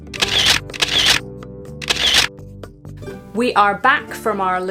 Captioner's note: shutter clicking